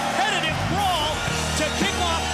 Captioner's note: bell ringing